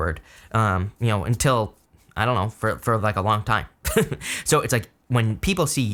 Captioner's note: chuckles